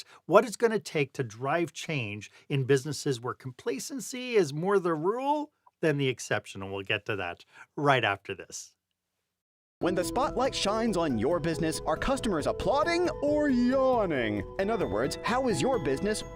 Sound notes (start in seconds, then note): 9.8 voiceover